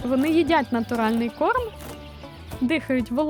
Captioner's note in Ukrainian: корова хрумкає